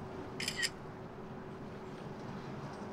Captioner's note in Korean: 찰칵